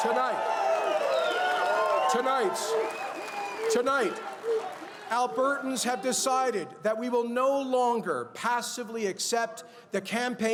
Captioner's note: cheers and applause